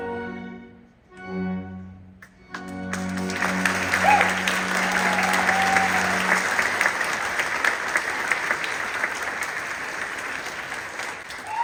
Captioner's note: music concludes. Applause